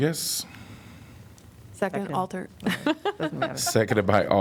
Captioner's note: laughter